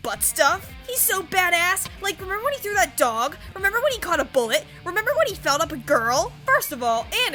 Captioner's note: mocking the voice of a presumed viewer